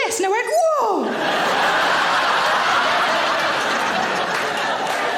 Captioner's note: audience laughing